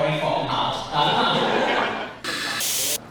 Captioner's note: laughter